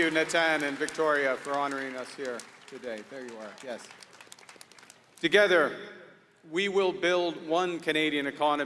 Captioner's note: applause